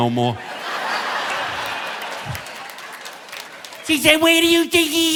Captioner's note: audience laughing